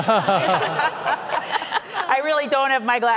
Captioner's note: audience laughing